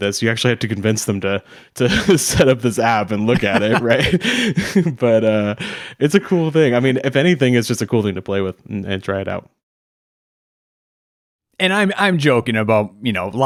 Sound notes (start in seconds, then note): 5.2 laughing